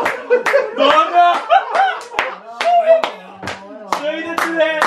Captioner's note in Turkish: alkiş ve kahkaha sesleri̇